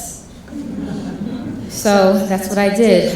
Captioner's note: laughing